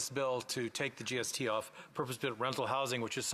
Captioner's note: off mic